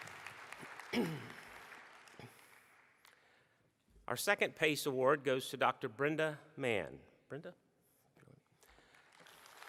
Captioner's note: applause